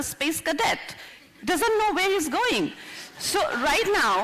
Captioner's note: laughter